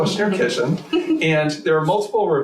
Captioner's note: laughs